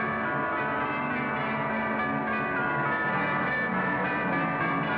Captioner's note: bells Continue